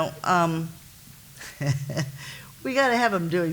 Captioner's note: laughs